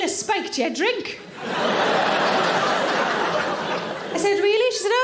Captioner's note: audience laughing